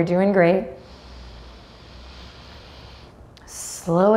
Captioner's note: deeply inhales